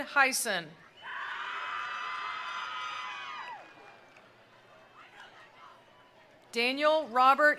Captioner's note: attendees cheering; attendees applauding